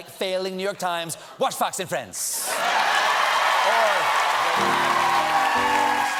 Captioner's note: cheers and applause